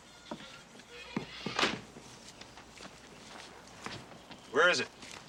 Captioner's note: door slams shut